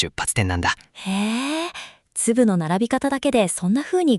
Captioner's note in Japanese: ため息